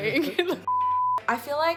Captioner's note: beep